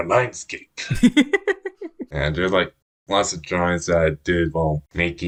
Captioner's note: laughs